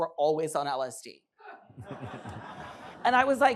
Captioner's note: laughter